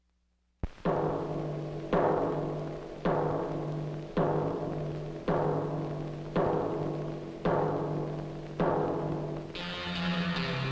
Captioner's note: rhythmic clanging sound